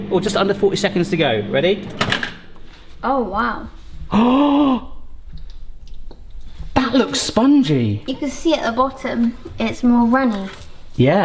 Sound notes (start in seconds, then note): 4.1 gasping